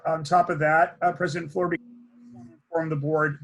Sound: speaks faintly

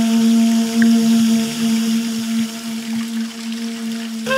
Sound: water rippling

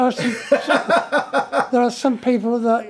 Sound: laughs

